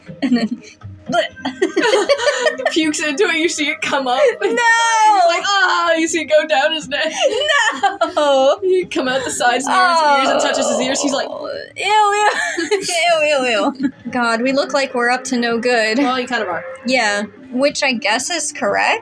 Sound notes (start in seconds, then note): 1.1 laugh; 2.2 gasp; 12.3 laugh; 13.5 chuckle